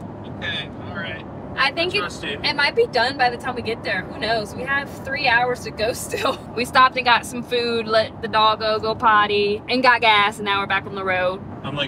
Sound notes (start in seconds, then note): 6.2 laughs